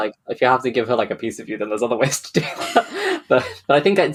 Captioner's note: laughing